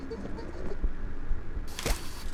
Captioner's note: laughing; gun firing